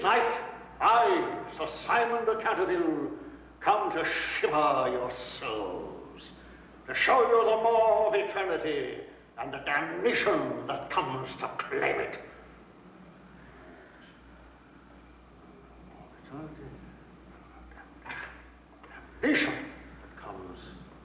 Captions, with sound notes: On this night, I, Sir Simon de Canterville, come to shiver your souls, to show you the maw of eternity and the damnation that comes to claim it. (quietly) Maw of eternity... Damnation that comes to claim it.